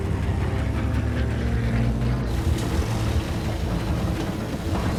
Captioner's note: airplanes roaring; dramatic music